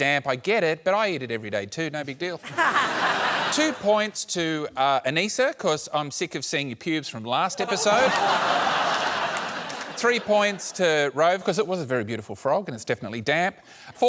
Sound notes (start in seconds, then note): 7.6 laughter